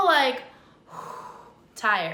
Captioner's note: sighs